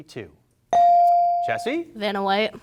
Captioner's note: bell rings